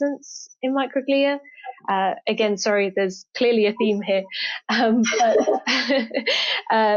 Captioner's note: laughs